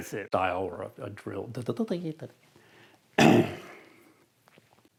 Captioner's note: stutters